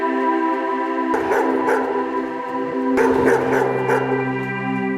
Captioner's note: dog barking